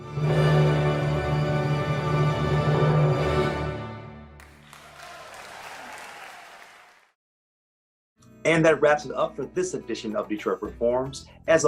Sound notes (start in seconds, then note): 4.4 audience applauding